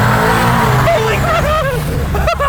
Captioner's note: engine roars; giddy Laughter and Giggling